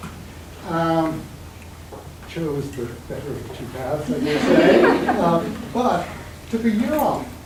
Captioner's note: all laughing